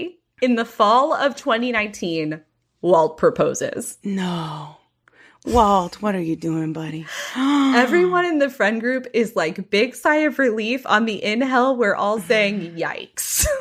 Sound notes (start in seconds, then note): 5.1 gasp